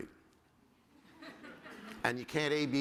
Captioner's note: laughter